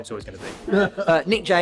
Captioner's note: abrupt swooshing